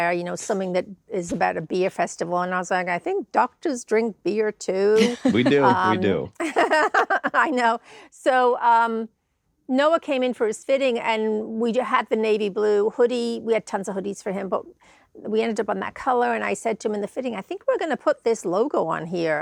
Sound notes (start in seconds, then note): 5.0 laughs